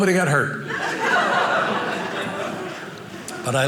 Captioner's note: audience laughing